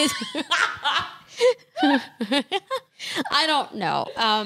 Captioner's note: laughs